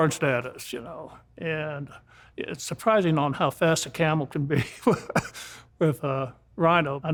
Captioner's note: laughs